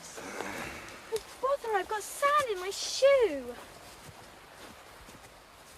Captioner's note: grunts